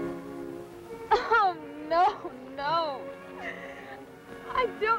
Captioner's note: sobbing